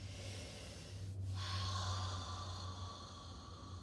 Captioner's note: breathing deeply